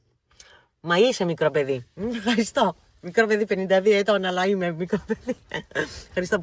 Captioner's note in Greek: γέλια